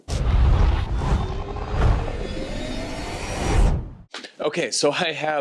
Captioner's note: electronic whooshing